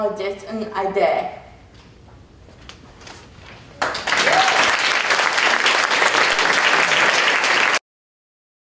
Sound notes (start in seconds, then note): 3.8 applause